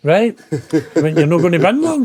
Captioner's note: laughing